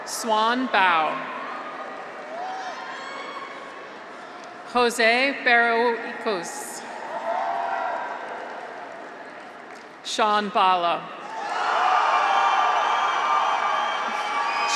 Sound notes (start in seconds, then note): 1.4 graduates cheer; 6.9 graduates cheer; 11.2 graduates cheer